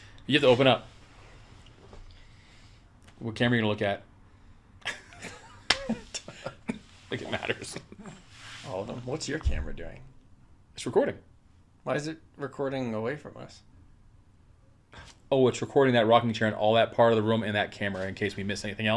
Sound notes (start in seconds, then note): 7.2 laughs